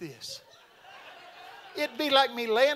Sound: audience laughing

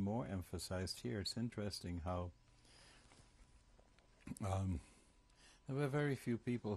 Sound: pauses for 3 seconds

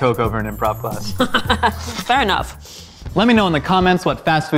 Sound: laughing

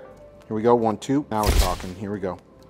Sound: camera shuttering

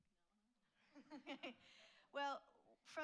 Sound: laughs

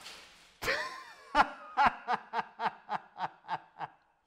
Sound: laughing

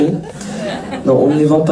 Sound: laughs

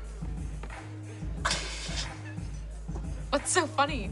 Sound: snickers

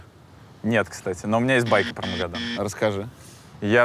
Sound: buzzer sound

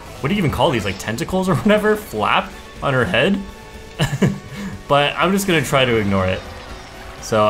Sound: laughs

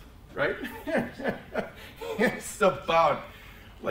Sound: laughs

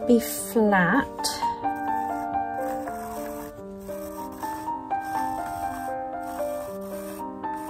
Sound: sound of pencil against the canvas

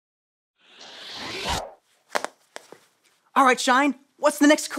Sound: picture wooshes

